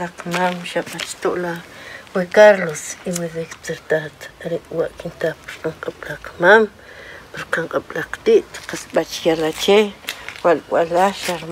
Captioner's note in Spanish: hablando en idioma K'iche'